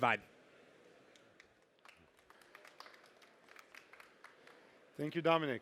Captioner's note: applause